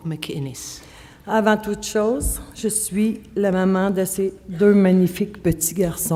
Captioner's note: speaking French